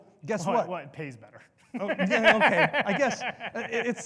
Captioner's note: laughs